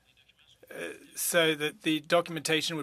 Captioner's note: speaking French